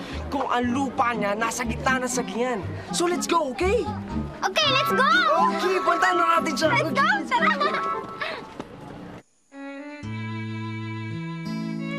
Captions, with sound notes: if his land is in the middle of Sagingan? So let’s go, okay? -Okay, let’s go! -Okay, let’s go see him. -Let’s go. [giggles] -Okay, let’s go. [somber music playing]